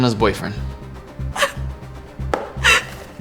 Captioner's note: sobs